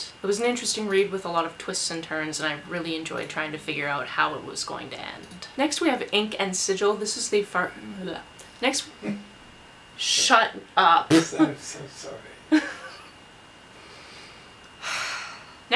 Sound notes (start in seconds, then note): 11.1 laughs; 14.8 sigh